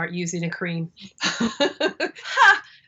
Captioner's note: both laugh